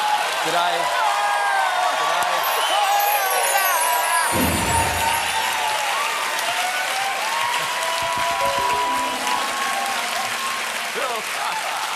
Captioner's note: cheers and applause